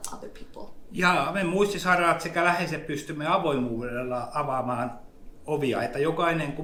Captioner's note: speaks in Finnish language